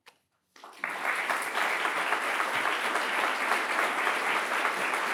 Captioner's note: audience applauding